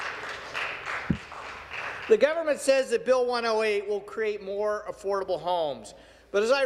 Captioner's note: some Applause